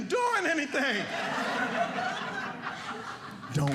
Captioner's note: audience laughing